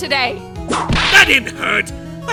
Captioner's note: whip crack!